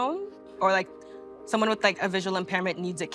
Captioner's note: none